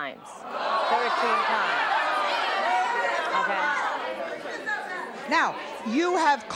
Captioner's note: audience outrage